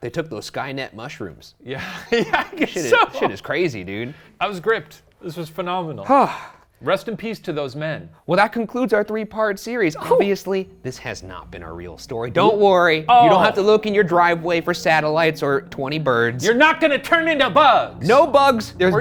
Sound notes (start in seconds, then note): 6.1 sighs; 9.6 soft, ominous music